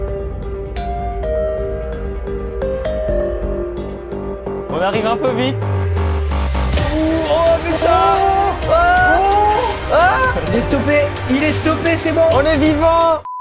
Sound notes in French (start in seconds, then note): 0.0 Musique épique; 6.9 cris de joie